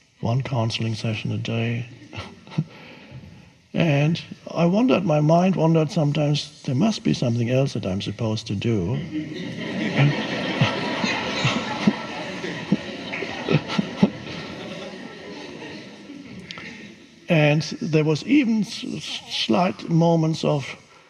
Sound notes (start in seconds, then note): 1.8 chuckles; 9.3 audience laughs